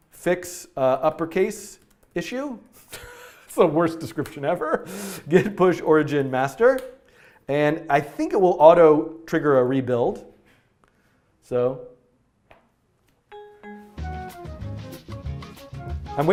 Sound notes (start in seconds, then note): 2.8 laughing; 13.3 light rumba music